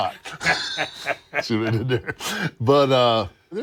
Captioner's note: laugh